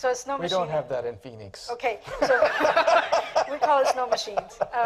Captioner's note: laughter